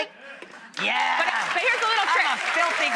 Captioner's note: audience applauding